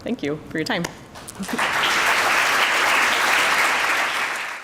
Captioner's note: applause